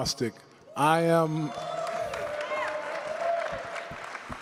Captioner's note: cheering crowd